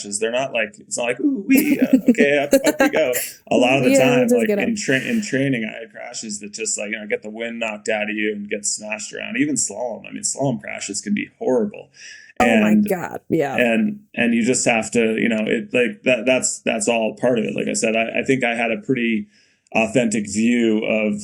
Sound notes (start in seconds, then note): 1.5 Mikaela laughing